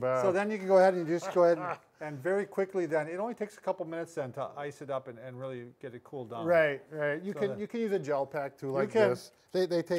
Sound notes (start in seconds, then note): 1.7 maniacally laughing